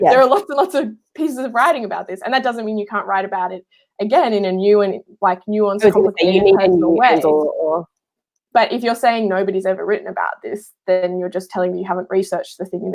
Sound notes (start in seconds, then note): 5.8 murmurs